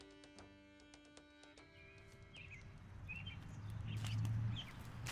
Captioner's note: birds chirping